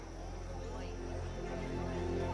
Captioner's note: a crowd gathering and talking indistinctly